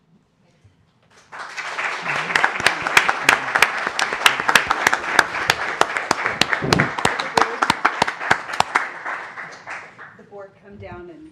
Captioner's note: applause